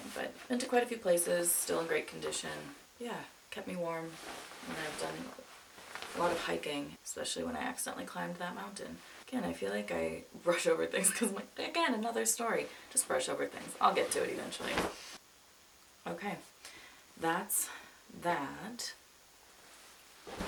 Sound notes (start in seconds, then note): 4.0 coat rustles; 13.7 coat plops; 20.2 coat plops